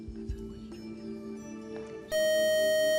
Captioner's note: buzzer